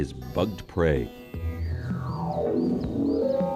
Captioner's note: radio wave sounds